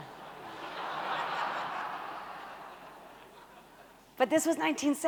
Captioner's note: audience laughing